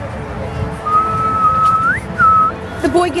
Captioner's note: whistles